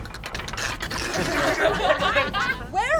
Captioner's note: imitating bones rattling; gasps; laughter